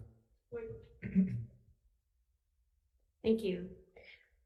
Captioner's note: coughs